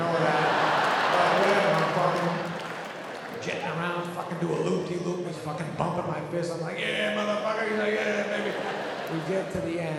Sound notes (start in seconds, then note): 0.0 audience laughing; 3.1 audience clapping